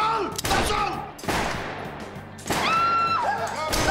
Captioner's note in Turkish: Silah sesleri